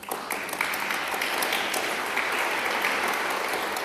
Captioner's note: applause